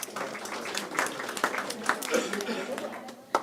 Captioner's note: applause